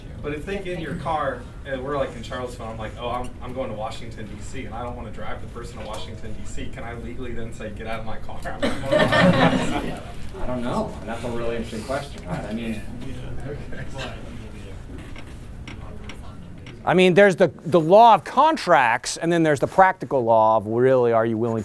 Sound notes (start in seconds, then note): 8.6 laughter